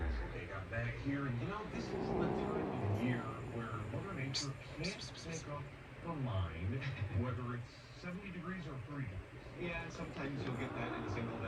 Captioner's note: begins growling